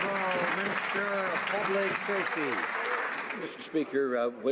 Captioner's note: some Applause